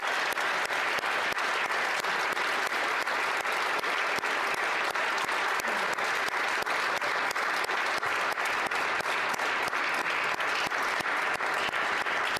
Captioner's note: applause